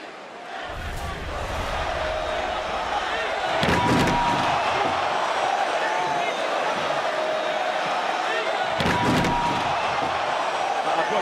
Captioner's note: crowd chants